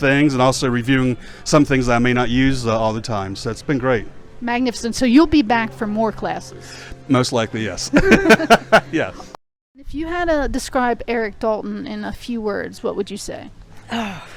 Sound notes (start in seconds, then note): 7.9 both laughing